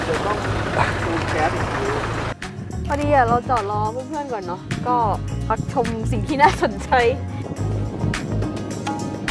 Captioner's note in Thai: ปรบมือ